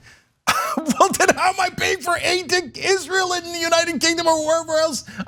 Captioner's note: laugh